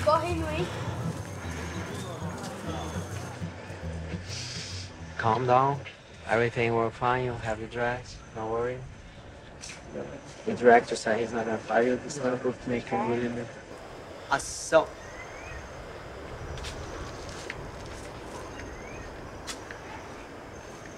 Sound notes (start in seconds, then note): 0.2 speaking foreign language; 14.9 speaking in foreign language